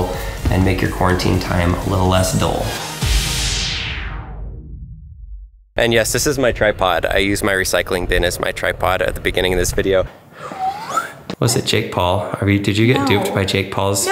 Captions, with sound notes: and make your quarantine time a little less dull. (dramatic music) And yes this is my tripod. I used my recycling bin as my tripod at the beginning in this video. (whistling) Was it Jake Paul? Did you get duped by Jake Paul's--